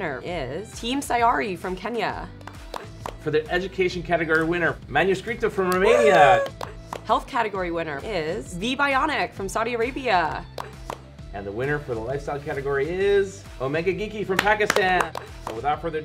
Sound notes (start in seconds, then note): 2.4 hosts clapping; 5.8 cheering; 10.5 hosts clapping; 14.3 hosts clapping